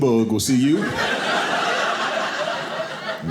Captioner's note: audience laughing